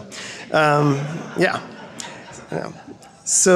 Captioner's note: crowd laughing